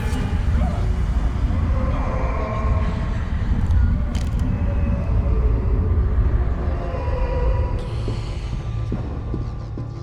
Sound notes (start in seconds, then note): 0.3 voices wailing and moaning